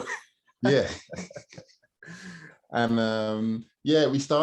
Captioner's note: laughing